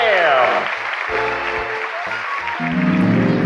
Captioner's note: applause